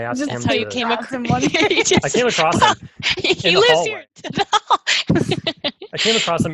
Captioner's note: laughs; sarcastically